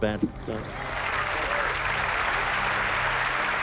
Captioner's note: applause